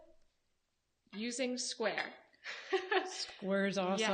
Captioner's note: laughs